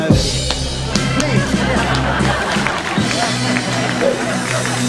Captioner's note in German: Beifall